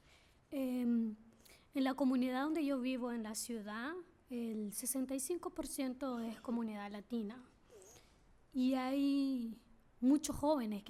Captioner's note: speaking spanish